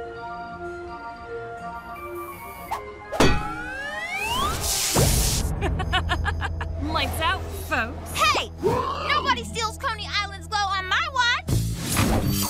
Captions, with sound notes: [circus music] [laughs] Lights out, folks. Hey, nobody steals Coney Island's glow on my watch.